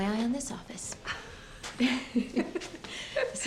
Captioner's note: both chuckling